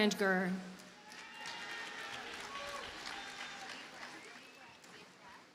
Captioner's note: audience cheers and applauds